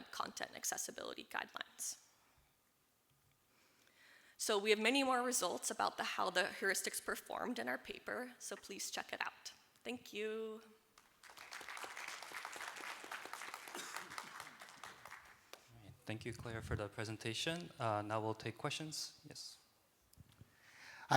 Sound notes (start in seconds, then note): 11.0 applause